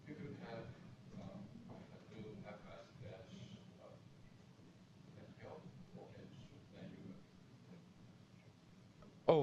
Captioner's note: pause